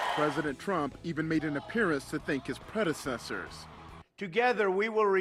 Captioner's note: cheers and applause